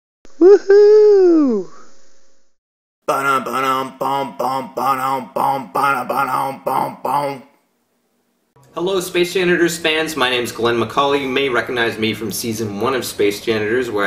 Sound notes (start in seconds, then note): 3.1 humming